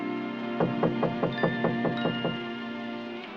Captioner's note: knocking on door